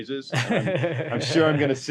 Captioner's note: both laugh